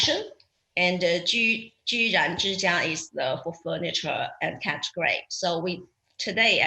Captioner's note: speaks foreign language